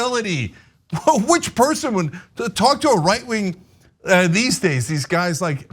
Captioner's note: laugh